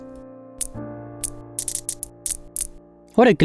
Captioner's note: light ticking